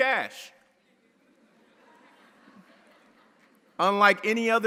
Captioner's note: audience laughing